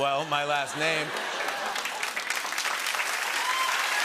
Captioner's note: laughter; cheering and applause